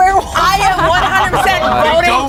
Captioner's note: everyone laughs